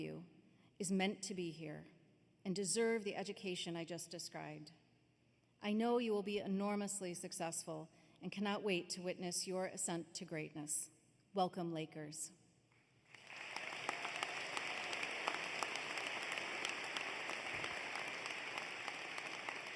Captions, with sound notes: AND EVERY ONE OF YOU IS MEANT TO BE HERE AND DESERVE THE EDUCATION I JUST DESCRIBED. I KNOW YOU WILL BE ENORMOUSLY SUCCESSFUL AND WELCOME LAKERS. [ APPLAUSE ]